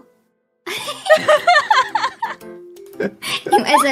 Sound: laughs

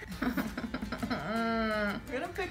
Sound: whining

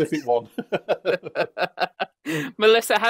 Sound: laughter

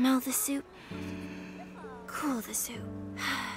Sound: sighs

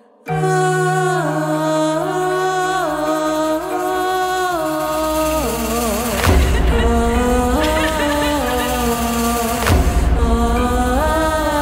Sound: vocaling and weeping of the weeping women

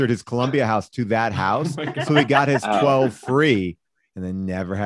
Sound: laughs

